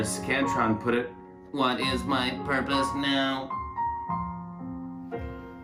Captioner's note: Robotic voice